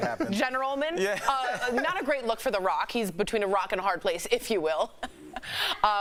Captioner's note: laughter